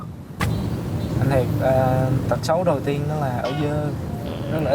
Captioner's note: huu